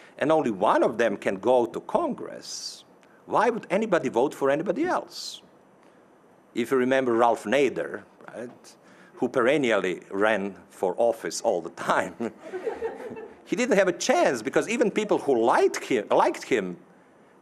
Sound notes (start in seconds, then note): 12.2 audience laughing